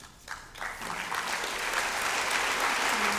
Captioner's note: applause